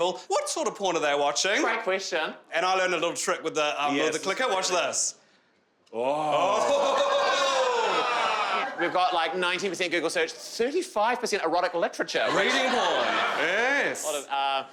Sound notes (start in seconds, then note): 6.1 crowd cheering